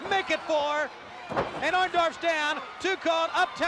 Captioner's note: crowd cheering